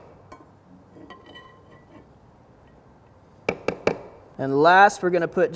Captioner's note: pan scrapping; spoon banging